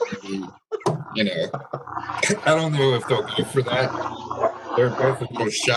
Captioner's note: laughter